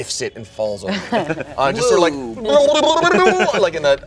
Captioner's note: makes silly sound